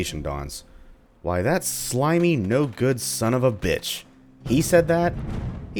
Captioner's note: thunder